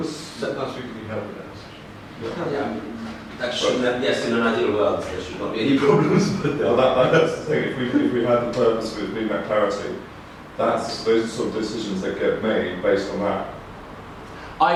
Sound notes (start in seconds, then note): 5.8 laughing